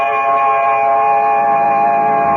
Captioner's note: bell rings